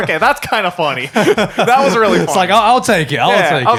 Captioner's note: laughing